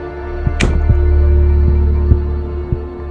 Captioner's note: door closes